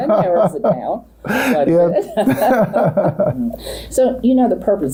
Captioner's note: both laugh